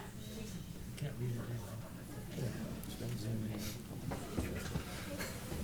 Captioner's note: chatter